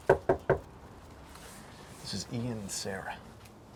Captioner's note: door knocking